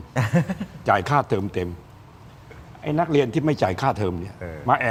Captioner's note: laughter